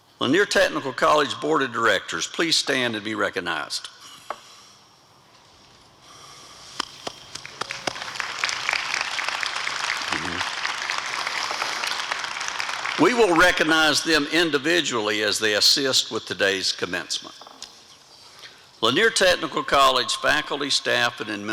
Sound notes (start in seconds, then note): 5.6 applause